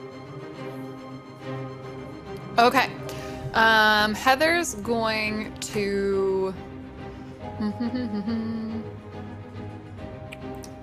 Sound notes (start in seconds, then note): 0.1 dramatic instrumental music continues; 7.6 humming